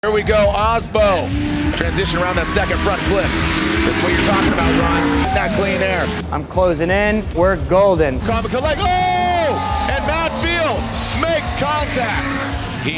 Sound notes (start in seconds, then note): 1.2 engines revving